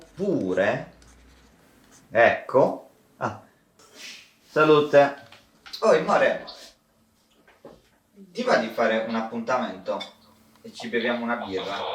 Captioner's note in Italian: starnuto